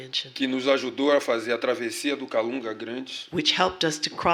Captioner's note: speaking portuguese